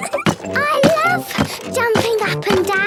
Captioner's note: giggles